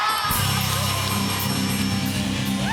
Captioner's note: cheers and applause